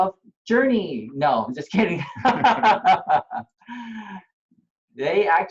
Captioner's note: laughter